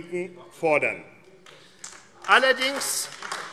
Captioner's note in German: Vereinzelter Beifall AfD